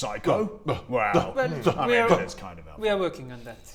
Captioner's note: offended noises